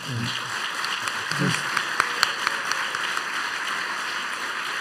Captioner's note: applause